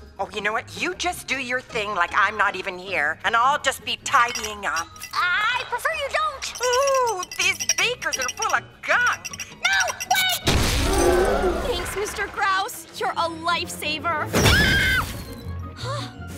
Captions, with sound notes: Oh, you know what? You just do your thing like I'm not even here. And I'll just be tidying up. I'd prefer you don't! Oh! These beakers are full of gunk! No, wait! [explosion] Thanks, Mr. Grouse. You're a lifesaver. [screams]